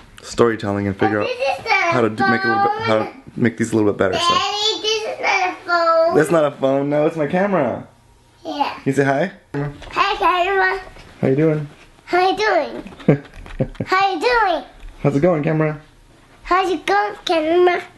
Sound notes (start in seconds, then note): 12.9 laughing